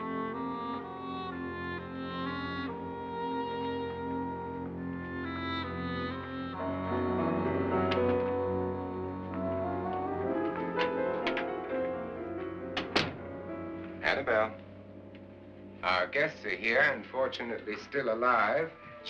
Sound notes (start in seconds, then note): 7.7 door opens; 10.1 ominous music; 12.4 door closes